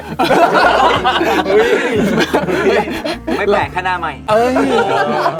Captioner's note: laugh